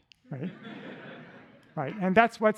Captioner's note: laughter